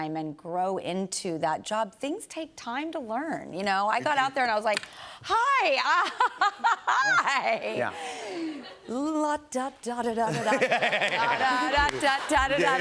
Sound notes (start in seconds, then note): 6.6 laughing nervously